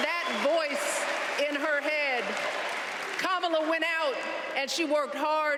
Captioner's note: cheers and applause